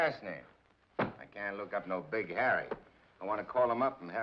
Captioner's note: book thumps